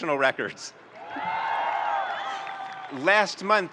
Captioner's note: audience cheering and applauding